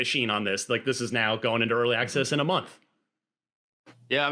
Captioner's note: none